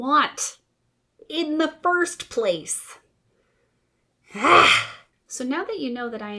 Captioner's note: exasperated RAH